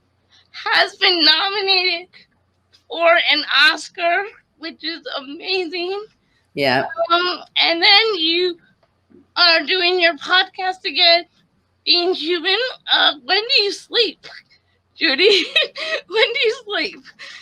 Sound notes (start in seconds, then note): 15.0 laughs